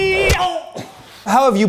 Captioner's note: groans